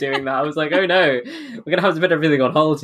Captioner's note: laughing; laughs